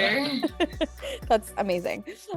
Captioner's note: laughing